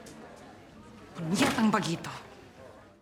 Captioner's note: speaking tagalog